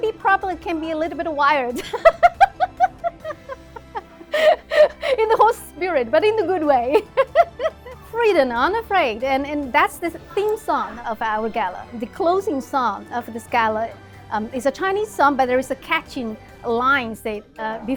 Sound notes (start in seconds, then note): 1.8 laughs; 7.5 laughs